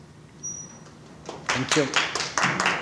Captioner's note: applause